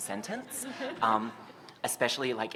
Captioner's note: laughter